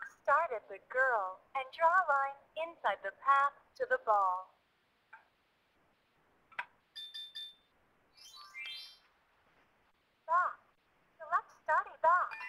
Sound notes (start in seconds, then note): 6.9 ringing